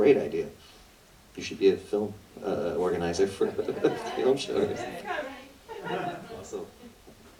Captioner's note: laughter